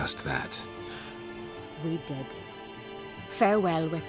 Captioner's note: sigh